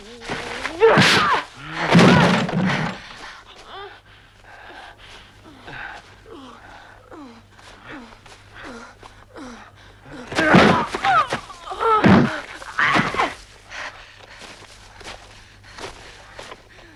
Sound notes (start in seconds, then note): 5.7 Hundra whimpering; 9.3 Hundra groaning; 10.0 Torente grunting